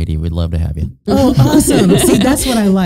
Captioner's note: both laughing